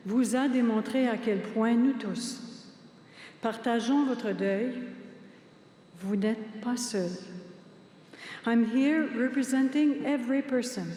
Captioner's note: speaking french